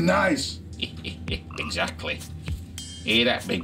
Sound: chuckles

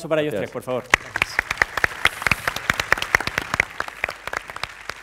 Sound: applause

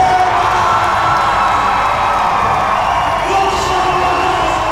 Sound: crowd cheers

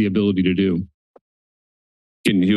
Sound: silence

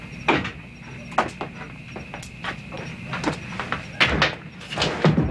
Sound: door creaks; insects trilling

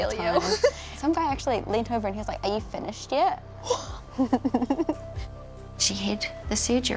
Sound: both giggle

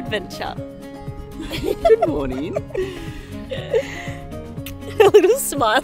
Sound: laughing

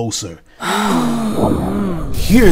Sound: sound whooshing

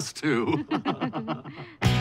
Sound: both laugh

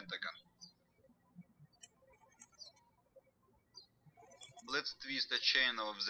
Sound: birds chirping

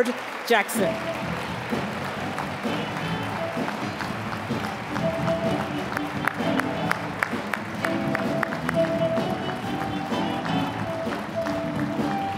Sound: applause; upbeat jazzy music

